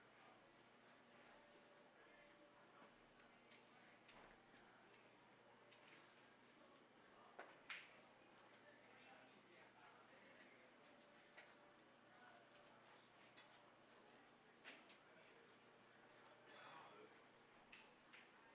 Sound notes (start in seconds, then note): 10.1 background audience chatter